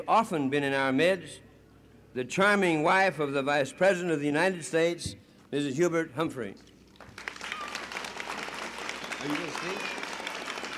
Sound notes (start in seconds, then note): 7.1 applause and a child yelling "yay!"; 10.4 applause